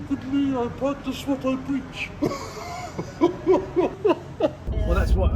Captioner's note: laughs